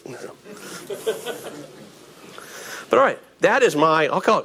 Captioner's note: audience laughing